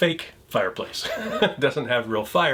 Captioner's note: chuckles